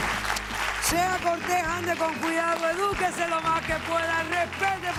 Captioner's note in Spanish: Aplausos